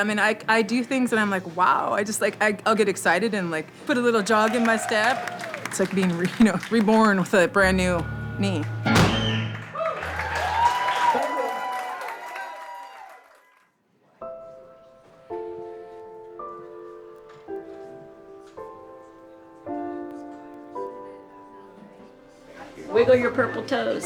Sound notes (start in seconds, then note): 9.5 applause